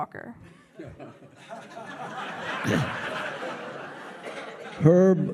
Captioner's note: audience laughing